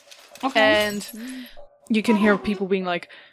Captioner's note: furniture creaking, glass smashing